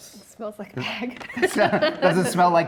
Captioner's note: laughs